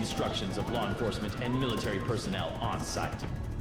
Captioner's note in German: Hubschrauber fliegt vorbei